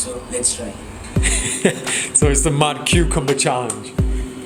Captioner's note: laughs